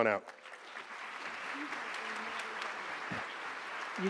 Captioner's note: applause